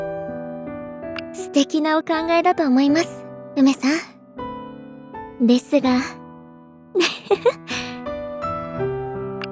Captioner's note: giggle